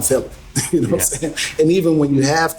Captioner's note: laughs